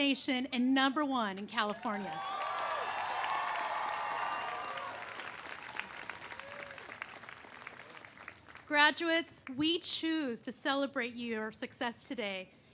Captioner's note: cheers and applause